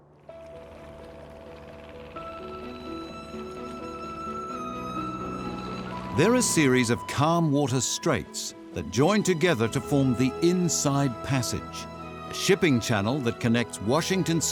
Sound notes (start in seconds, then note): 0.5 engine chugging; 1.3 gentle music